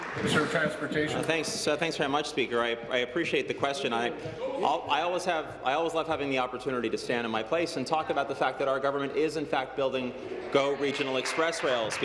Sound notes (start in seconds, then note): 0.0 applause